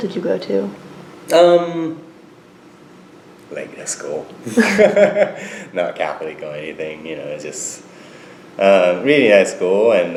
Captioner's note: laughs